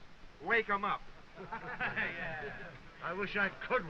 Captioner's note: laughs